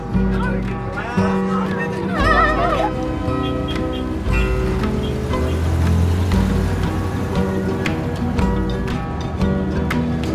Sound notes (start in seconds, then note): 0.1 kids mumbling; 3.5 bus hooting; 5.0 engine revving